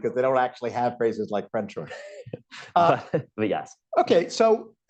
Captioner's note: laughs